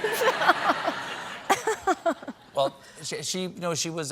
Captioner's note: laughter